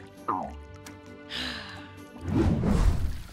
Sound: sighs

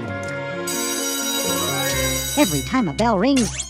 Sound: bell rings

